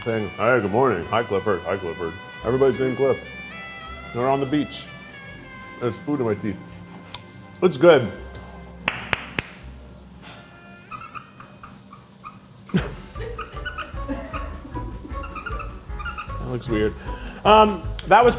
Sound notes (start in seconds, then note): 8.8 clapping; 10.7 pickle squeaking; 12.8 upbeat music